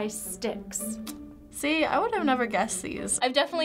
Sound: tsking

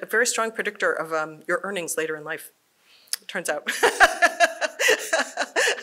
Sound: laughs

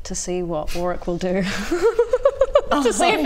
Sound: impish laughter

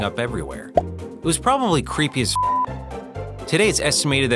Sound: beep

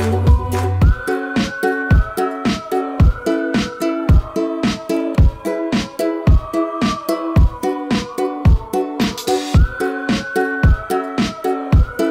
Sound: whistling

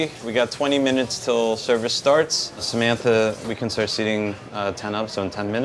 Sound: none

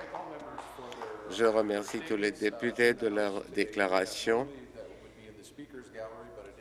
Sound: some applause

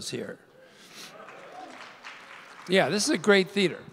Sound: audience whooping and applauding

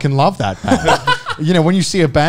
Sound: laughing

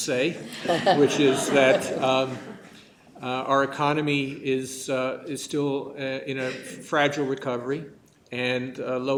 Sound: laughter

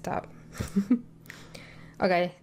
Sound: giggles

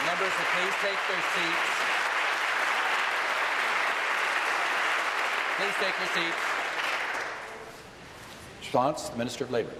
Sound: applause

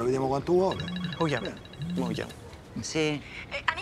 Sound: cell phone rings

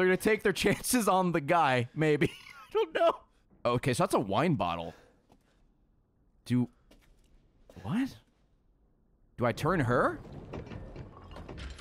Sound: laughs

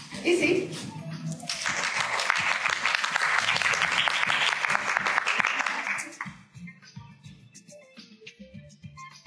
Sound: applause

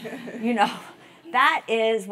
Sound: laugh

